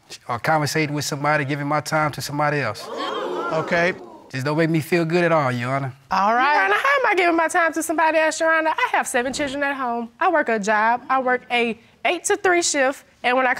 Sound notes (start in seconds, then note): 2.8 audience exclaiming